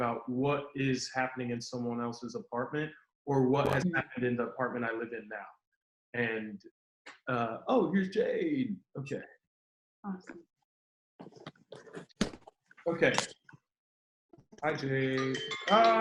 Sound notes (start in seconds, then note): 11.2 rustling sound; 15.1 phone chiming